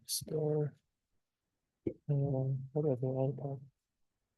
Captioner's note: speaks faintly